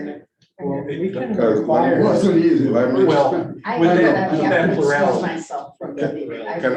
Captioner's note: all chattering